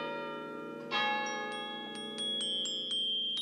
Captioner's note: chimes